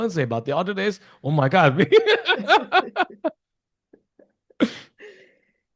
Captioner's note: laughs